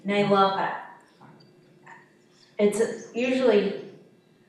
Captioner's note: swallows chirping